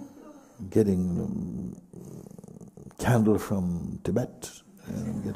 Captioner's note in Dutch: gelach